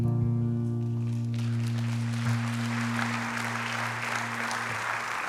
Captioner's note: congregation applauds